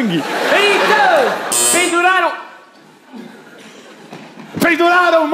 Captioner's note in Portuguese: campainha